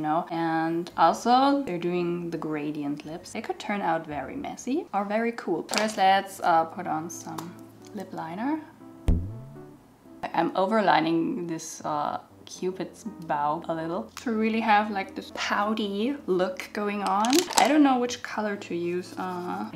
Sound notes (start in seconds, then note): 9.0 bounce sound